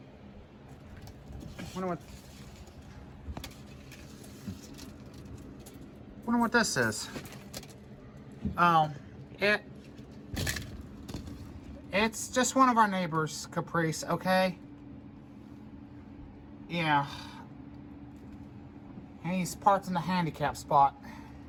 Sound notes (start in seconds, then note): 8.0 vertical blinds move